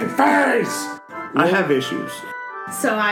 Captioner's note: all laugh; thppp